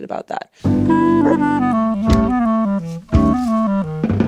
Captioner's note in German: Fröhliche Musik; Hundebellen; Fröhliche Musik; Grasrascheln